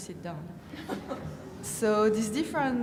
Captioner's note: laughing